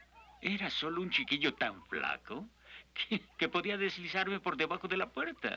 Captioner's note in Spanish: riendo